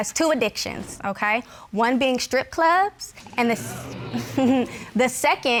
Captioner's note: scoffs